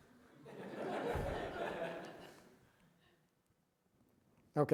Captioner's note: audience laughing